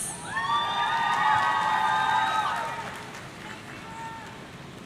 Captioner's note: audience cheering